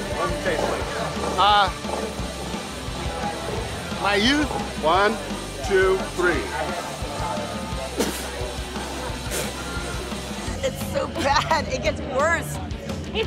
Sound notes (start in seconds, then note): 7.9 spitting